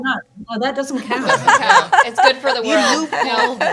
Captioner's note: panelists laughing